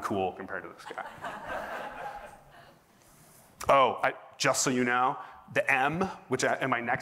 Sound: laughter

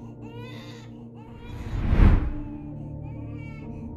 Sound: woosh

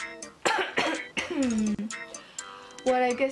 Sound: coughs

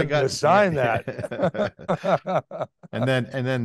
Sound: both laughing

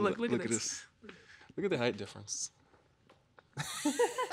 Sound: laughs

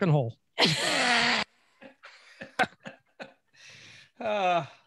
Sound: laughing

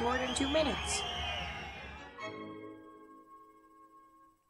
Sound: applause

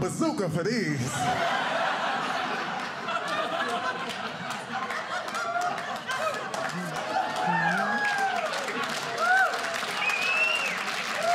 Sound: laughter

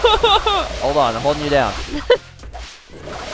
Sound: laughs

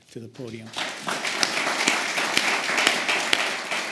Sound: applause

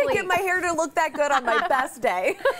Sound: laughter

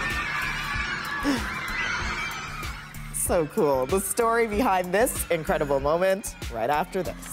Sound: laughter

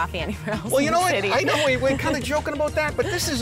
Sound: laughter

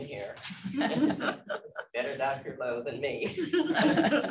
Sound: speaking away from mic; laughter

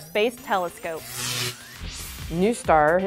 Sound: sound Effects

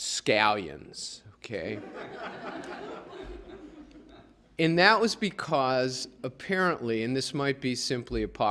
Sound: laughter

